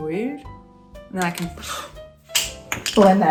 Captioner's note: gasps; makeup clattering on floor